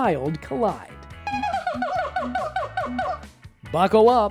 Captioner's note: monkey howls